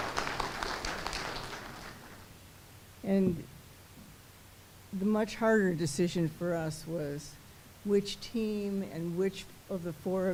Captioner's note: applause